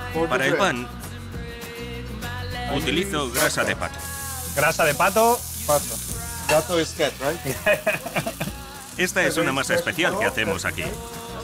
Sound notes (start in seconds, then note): 5.2 in spanish; 7.5 laughs